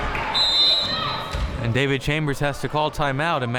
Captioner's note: whistle blowing